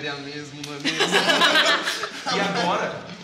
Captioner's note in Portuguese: risadas